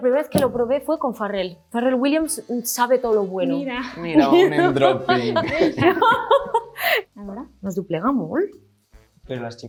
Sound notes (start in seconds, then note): 3.7 producer 2 speaks in Spanish; 4.1 laughs; 4.5 producer 1 speaks in Spanish; 7.1 producer 2 speaks in Spanish; 8.3 speaks in Spanish; 9.4 producer 1 speaks in Spanish